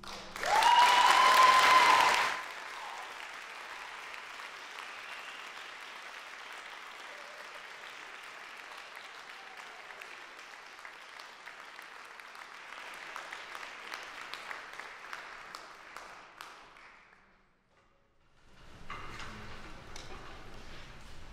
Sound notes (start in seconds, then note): 0.3 applause, cheering; 5.7 applause; 17.6 ambient room noise